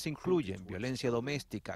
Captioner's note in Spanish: habla en ingés